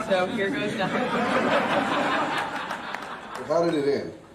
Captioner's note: audience laughs